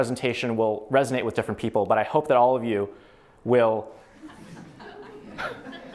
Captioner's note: laughter